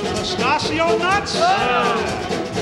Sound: crowd

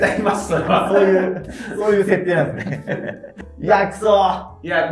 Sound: laughing

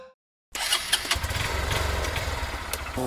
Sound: bike engine starting sound

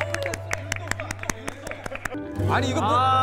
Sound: clapping

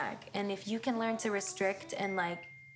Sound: phone dings

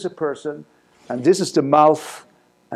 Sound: none

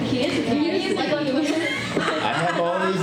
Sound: laughs

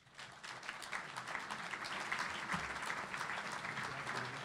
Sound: audience applauding

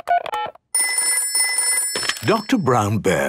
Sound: dial tones beeping; ringing

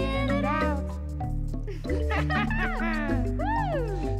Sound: both laughing and humming

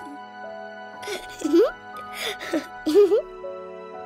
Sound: laughing

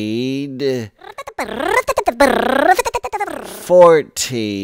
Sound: funny motor sound goes

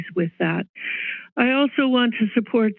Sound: inhale

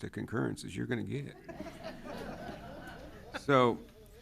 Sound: everyone laughs

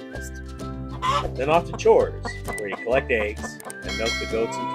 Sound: chicken sounds; sheep and cow sounds

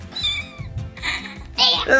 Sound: kitten mews

